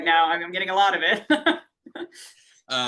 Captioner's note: laughs